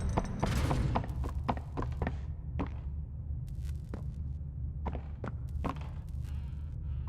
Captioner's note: footsteps